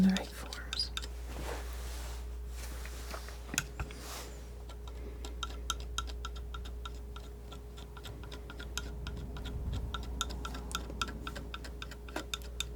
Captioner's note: tapping